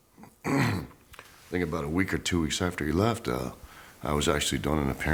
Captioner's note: cough